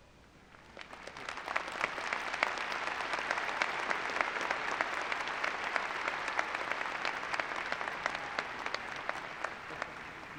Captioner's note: applause